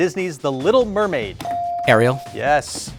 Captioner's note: buzzer dings